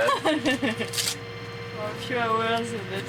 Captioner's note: laughing